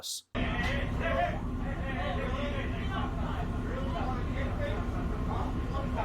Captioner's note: people talking